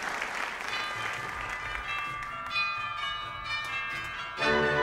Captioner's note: applause; bells ringing